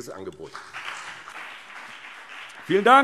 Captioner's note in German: Beifall BÜNDNIS 90/DIE GRÜNEN und CDU